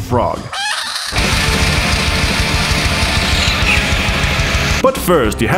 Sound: frog shrieks over tremolo picked guitar

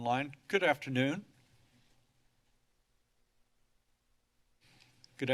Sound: silence

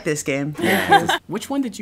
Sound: laughing

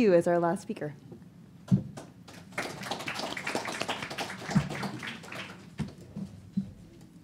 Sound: applause

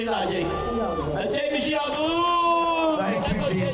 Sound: speaking native language

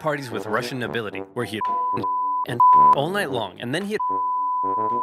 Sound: beeping loudly

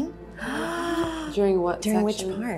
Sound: gasps

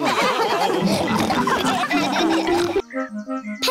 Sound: all laugh

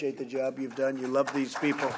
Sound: applause

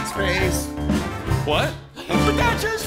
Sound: speaking

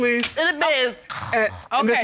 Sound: imitates snoring

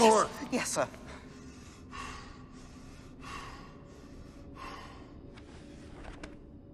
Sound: Dumbledore is panting

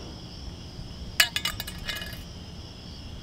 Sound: clink

